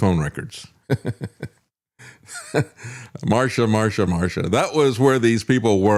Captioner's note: laughing